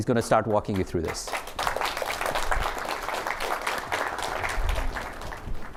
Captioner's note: applause